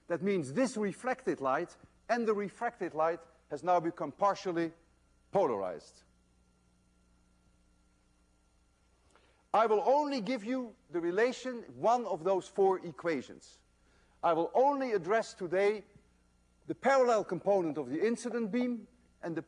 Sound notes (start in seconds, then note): none